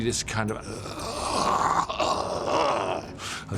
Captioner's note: groaning